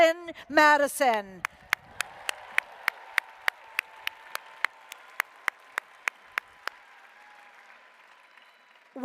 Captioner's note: applause